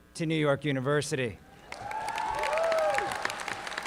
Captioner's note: applause